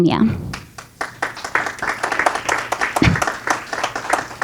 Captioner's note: audience clapping